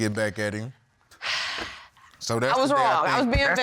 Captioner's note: sighing